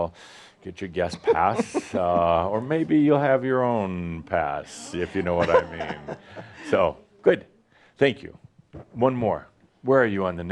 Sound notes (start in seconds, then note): 4.9 she chuckles